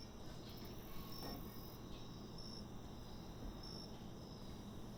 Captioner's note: crickets chirping